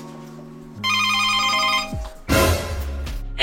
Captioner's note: intercom ringing